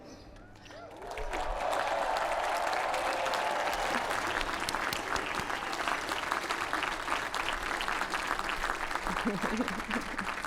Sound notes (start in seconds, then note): 0.7 applause